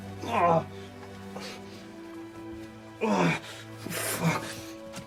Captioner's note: Robert groaning